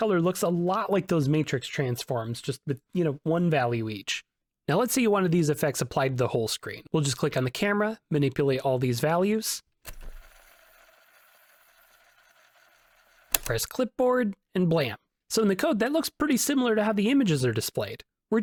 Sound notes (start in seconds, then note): 9.8 fast forward noises